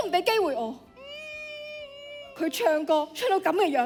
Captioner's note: sobbing